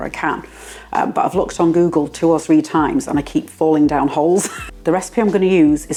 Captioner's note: laugh